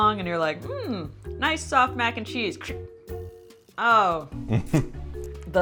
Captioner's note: crick